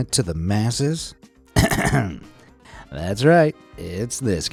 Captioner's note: clears throat